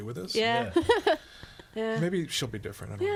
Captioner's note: laughs